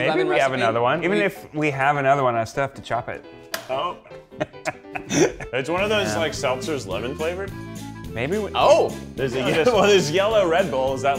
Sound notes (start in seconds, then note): 4.3 chuckling